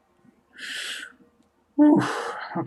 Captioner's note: breathes deep